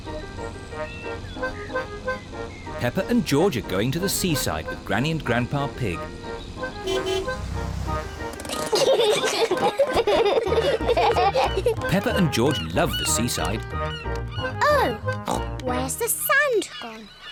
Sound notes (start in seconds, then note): 6.6 honks horn; 8.4 peppa and george giggle